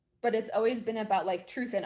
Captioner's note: none